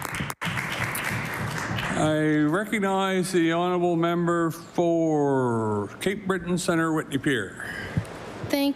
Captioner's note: applause